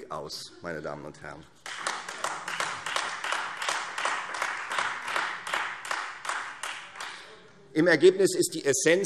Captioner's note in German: Beifall